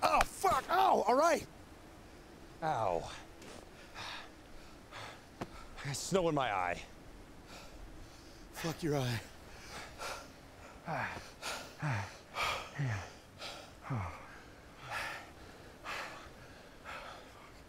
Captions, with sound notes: - Oh, fuck, ow! - All right! Ow. I got snow in my eye. Fuck your eye. [panting]